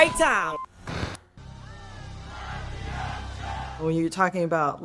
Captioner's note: static hums; soft dramatic music; crowd chanting